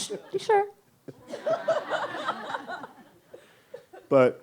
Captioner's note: laughs